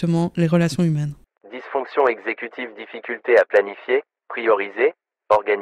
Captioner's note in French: Voix off